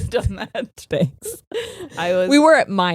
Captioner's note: both laughing